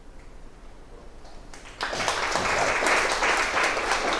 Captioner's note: applause